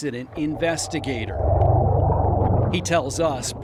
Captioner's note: water whooshing